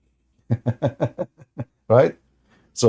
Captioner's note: Ketawa